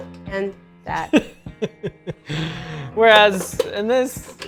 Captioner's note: laughing